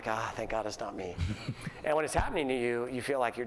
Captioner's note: laughter